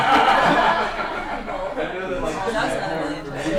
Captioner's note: laughter